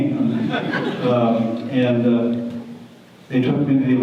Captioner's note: audience laughter